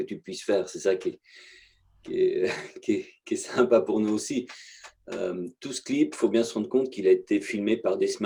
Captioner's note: laughs